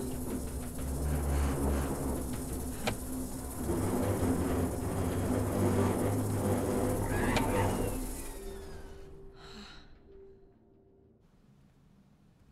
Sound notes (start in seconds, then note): 7.7 powers down